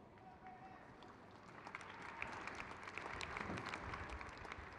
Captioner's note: crowd cheers